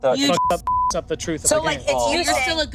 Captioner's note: beep